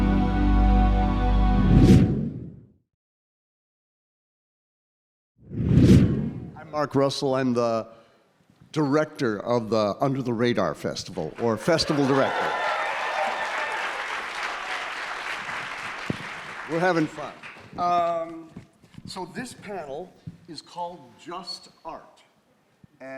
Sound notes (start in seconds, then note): 1.7 slide swooshing; 11.2 audience applauding; 11.6 audience laughing